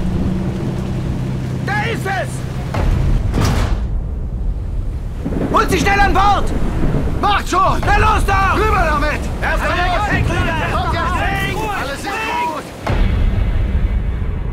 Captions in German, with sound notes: Da ist es! Holt sie schnell an Bord! Macht schon! Na los, doch! Rüber damit! [Geschrei der Bootsleute]